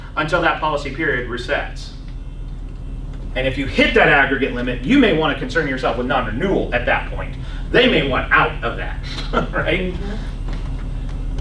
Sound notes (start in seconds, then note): 9.1 laughs